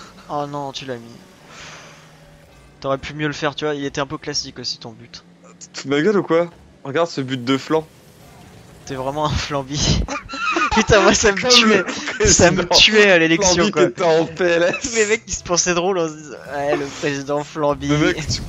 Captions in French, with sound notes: oh nan tu l'as mis T'aurais pu mieux faire tu vois il était un peu classique ton but Tu t'fous de ma gueule ou quoi ? Regarde ce but de flan. T'es vraiment un Flambi. (rires) (rires) P'tain moi ça me tuait Ça me tuais à l'élection Quand on disait Flambi t'étais en PLS *rires* Les mecs ils s'pensaient drôles en disant "Président Flambi"